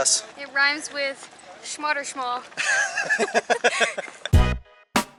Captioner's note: laughter